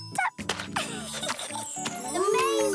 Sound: laughing

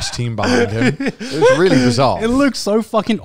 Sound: laughs

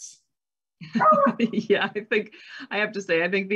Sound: laughs

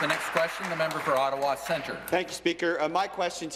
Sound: applause

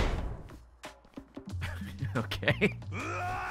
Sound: laughs

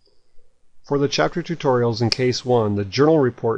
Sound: voiceover

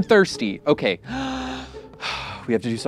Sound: sighs

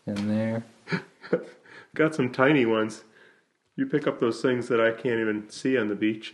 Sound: laughs

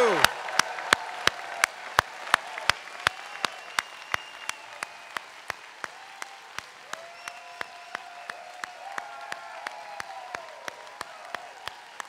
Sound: applause

